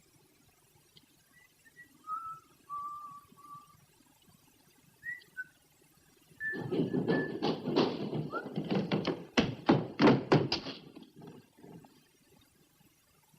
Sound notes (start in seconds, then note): 6.4 hurried footsteps